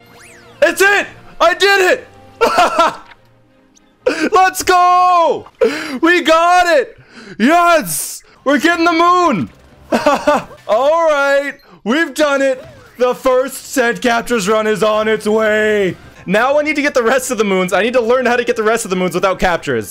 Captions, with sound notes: IT'S IT!! I DID IT!! [cute excited laugh] LET'S GOOO We got it!!! Yes!!! We're getting the moon!!! [laughs] Alright, we've done it The first ten captures run is on its way Now we need to get the rest of the moons. I need to learn how to get the rest of the moons without captures